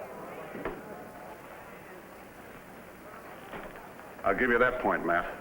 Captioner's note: crowd chattering